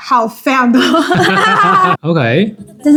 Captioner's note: laughs *2